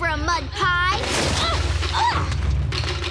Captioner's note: grunting